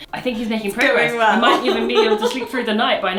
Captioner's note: laughs